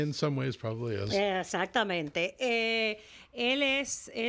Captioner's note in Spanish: Hablando ingl\s